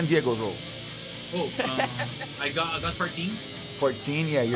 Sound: laughs

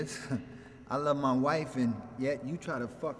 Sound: chuckles

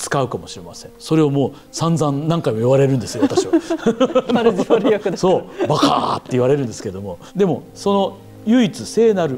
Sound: laughs

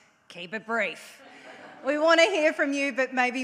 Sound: audience laughs

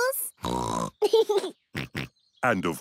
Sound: laughs; snorts; laughs and grunts

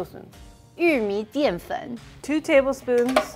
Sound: speaking in mandarin

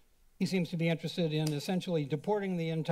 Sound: slap sound

